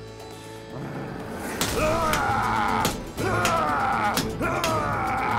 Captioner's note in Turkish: Noyan haykırma sesi